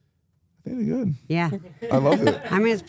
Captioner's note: laughing